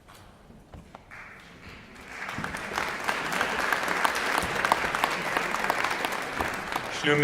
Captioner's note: applause